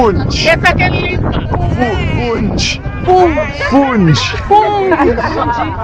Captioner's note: people speaking in foreign language